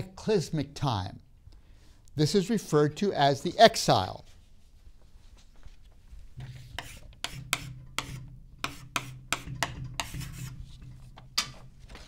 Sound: chalk scrapes on board

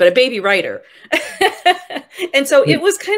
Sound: laughing

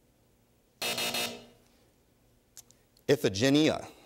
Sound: buzzer sounds

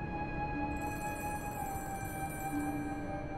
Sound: phone ringing

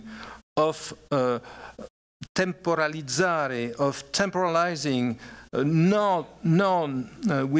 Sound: italian

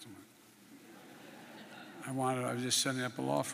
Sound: laughter

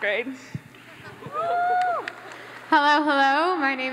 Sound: audience laughs

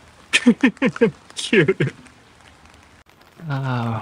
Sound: laughs

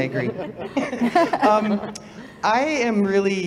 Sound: laughter

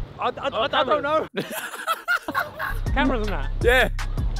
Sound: Ethan laughs

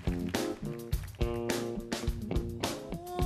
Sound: cheers and applause

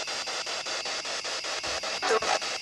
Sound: loud, choppy static

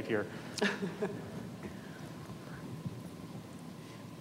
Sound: laughs

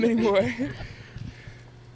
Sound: laughing

